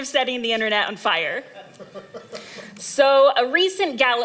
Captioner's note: laughter